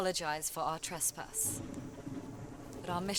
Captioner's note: thunder